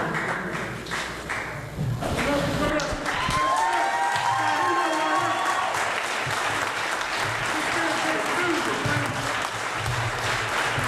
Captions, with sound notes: They're all coming out! (applause)